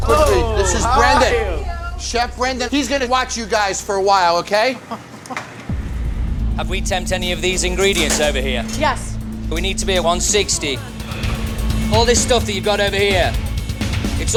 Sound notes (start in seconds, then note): 4.8 chuckles nervously